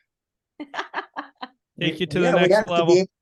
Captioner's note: laughing